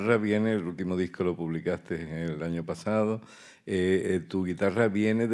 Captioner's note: speaking in Spanish